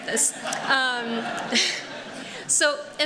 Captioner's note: laughter